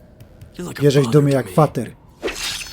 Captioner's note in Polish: miecz przelatuje